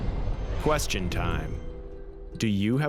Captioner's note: voiceover